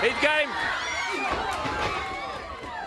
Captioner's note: crowd chatter; crowd cheering